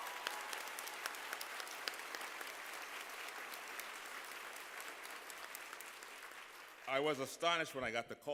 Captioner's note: applause